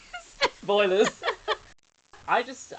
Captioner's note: laughing